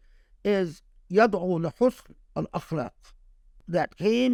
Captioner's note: speaking Arabic